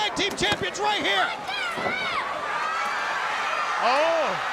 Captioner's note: crowd cheering